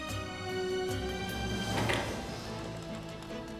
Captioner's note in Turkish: Kapı açılma sesi